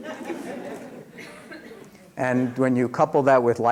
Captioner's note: laughter